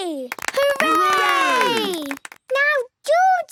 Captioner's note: cheering, clapping